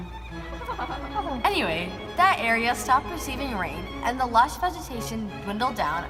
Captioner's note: awkward laughter